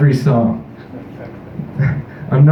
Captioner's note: chuckle; scoffs into microphone